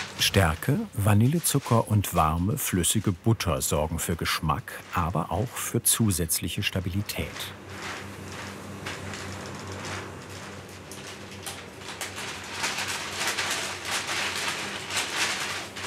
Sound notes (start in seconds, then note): 12.5 rustling